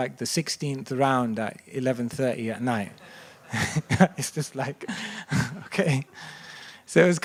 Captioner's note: chuckles